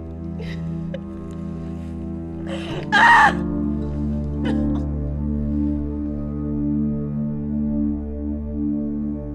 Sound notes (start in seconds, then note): 2.4 Grace cries out; 6.7 somber music